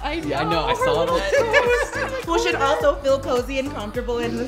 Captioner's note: laughing